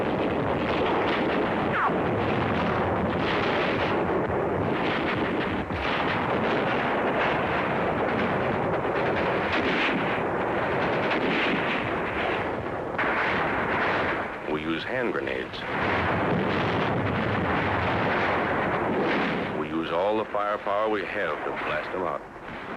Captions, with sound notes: (artillery firing) (gun firing) We use hand grenades. (grenades exploding) We use all the firepower we have to blast them out.